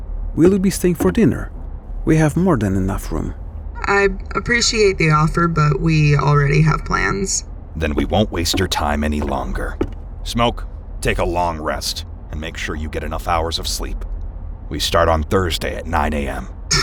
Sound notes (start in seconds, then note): none